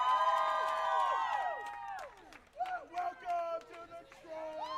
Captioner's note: cheering & applause